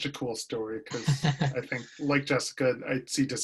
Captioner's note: laughter